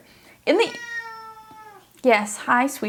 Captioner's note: cat meowing loudly